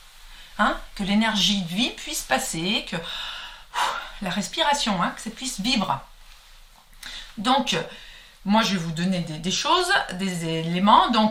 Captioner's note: breath